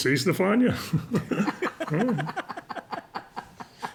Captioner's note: laughter